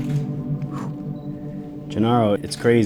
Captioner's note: catching breath